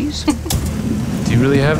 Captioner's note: chuckles